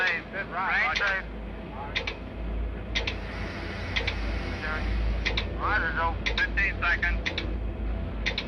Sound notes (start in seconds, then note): 2.6 radio chattering